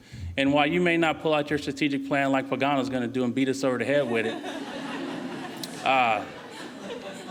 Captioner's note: laughing